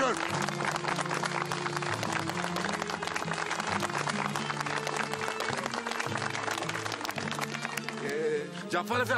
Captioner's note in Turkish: Alkışlar